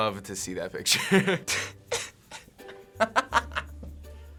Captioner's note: snickering; laughing